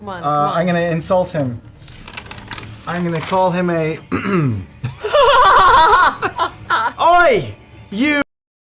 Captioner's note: clears throat